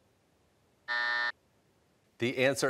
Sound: buzzer

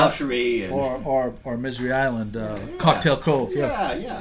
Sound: voiceover

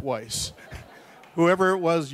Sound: audience laughs

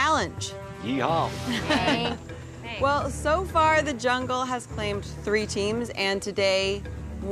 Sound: all laughing

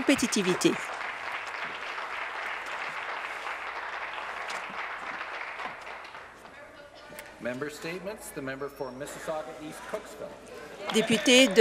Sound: applause

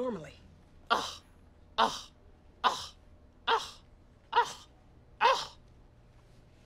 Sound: ABED scoffing

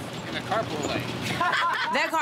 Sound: laughter

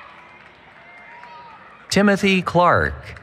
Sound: cheering

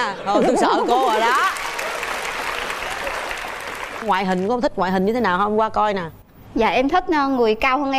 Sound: laughter; claps

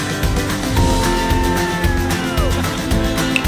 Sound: riders cheering

